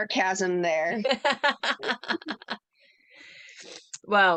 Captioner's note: laughter